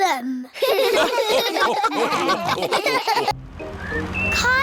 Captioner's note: all laugh